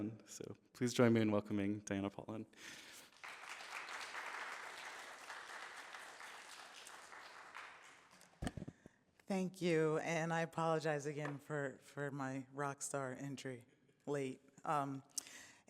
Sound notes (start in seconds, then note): 2.7 applause